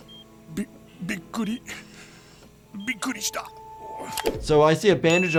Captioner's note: Randy speaking Japanese